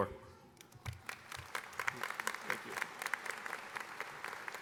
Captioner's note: audience applauding